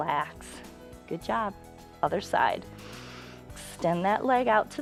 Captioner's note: inhales